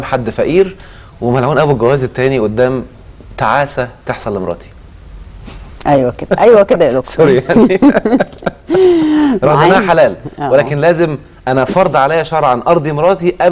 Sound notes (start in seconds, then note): 7.2 laughs!